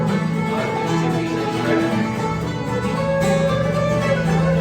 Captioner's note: mutters